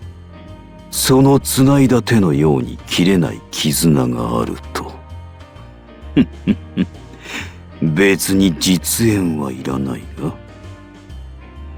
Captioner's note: chuckle